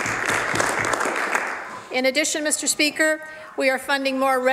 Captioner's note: some Applause